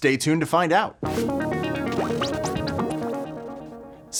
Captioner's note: electronic tones